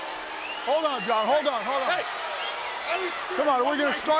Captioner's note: speaks faintly